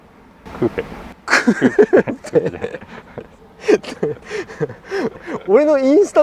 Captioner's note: laughs